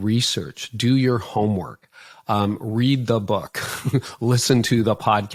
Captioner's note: laughing